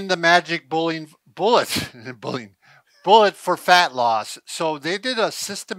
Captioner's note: chuckles